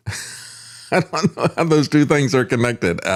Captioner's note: laughs